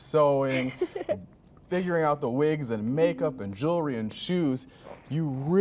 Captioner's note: chuckles